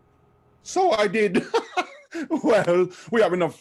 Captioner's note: chuckle